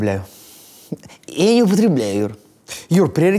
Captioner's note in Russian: пьяным голосом